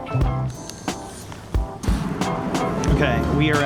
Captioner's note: light jazz music; camera whirring